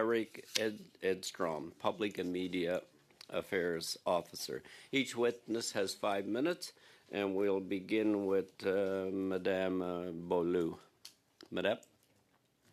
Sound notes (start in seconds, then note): 4.1 speaking French